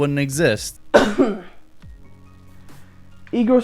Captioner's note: ahem